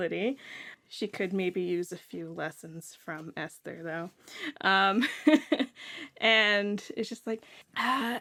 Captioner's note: laughs